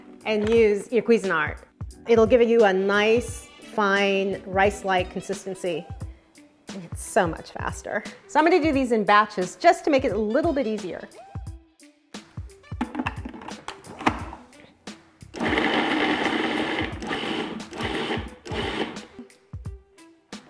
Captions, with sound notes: and use your Cuisinart. It'll give you a nice fine rice-like consistency and it's so much faster. So I'm gonna do these in batches just to make it a little bit easier. (gentle music) (food processor revving)